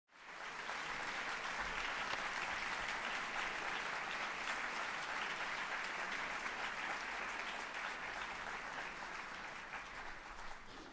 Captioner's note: applause